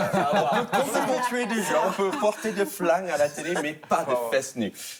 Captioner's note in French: rires